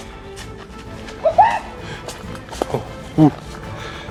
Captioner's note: clucks